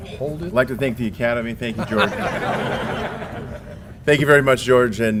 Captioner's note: laugh